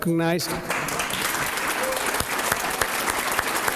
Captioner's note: applause